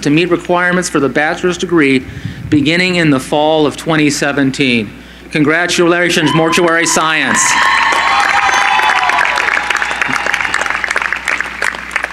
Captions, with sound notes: to meet requirements for the bachelor's degree beginning in the fall of 2017. Congratulations, Mortuary Science. [CHEERING]